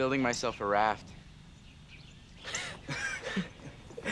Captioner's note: laughs